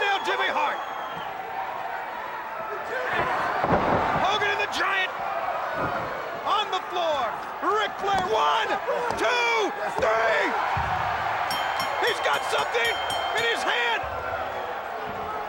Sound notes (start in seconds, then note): 0.0 crowd roaring; 2.2 crowd roaring; 2.7 wrestlers grunting; 11.0 crowd roaring; 11.4 bell dinging